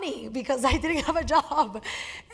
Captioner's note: laugh